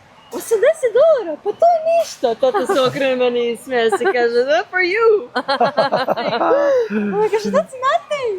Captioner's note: laughs